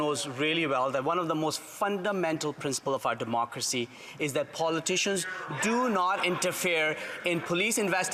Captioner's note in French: voix de l'interprète